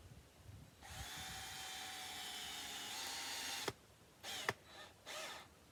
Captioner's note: drill whirring